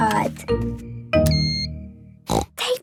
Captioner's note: beep!; snorting